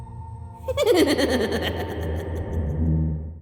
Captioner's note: hysterically laughing